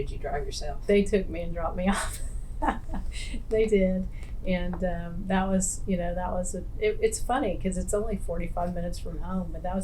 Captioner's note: laughs